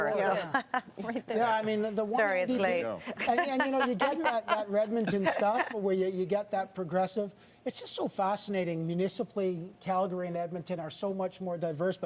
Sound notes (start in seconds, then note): 6.3 laughter